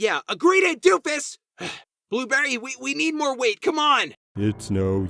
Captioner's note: sighs